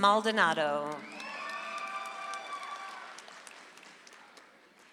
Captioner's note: audience applauds